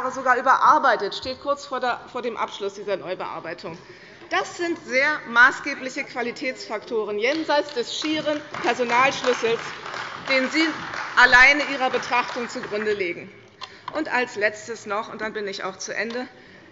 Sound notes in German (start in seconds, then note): 12.1 Beifall bei der CDU